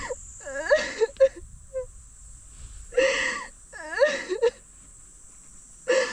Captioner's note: is crying